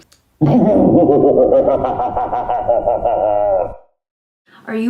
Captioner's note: laughing demonically